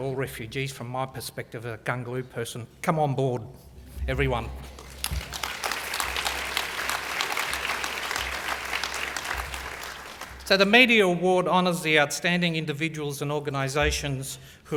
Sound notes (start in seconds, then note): 4.7 applause